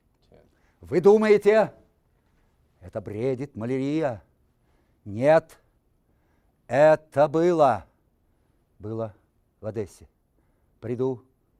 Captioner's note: reciting poem in Russian